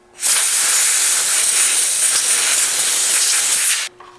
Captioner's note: air blowing